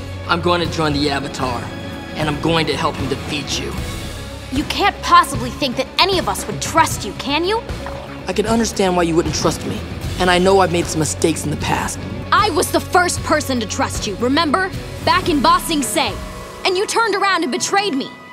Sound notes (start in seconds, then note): none